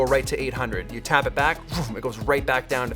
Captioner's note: swoosh sound